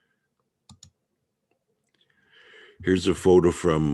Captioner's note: mouse clicking